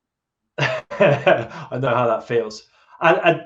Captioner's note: laughs